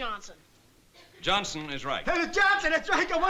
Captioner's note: laughing